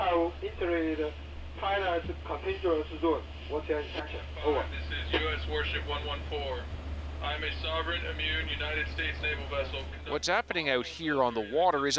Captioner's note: speaking alternate language